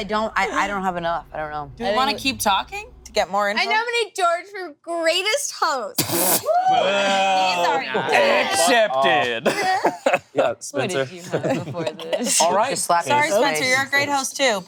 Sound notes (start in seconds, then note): 6.2 crew whooping; 7.6 laughing; 9.9 laughs